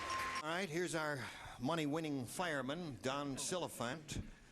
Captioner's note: bell ringing